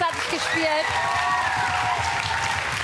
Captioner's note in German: Applaus und Jubel